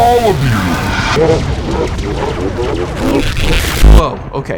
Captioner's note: evil Robot Laughter